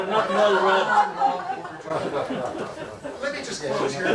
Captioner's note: laughter